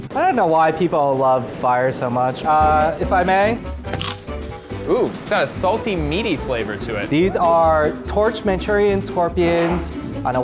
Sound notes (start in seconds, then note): 3.8 scorpion crunches